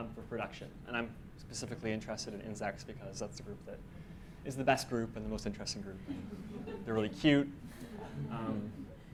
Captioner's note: audience memebers laugh